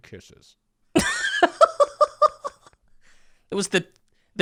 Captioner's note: laughing